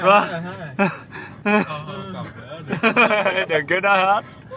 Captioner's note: laughter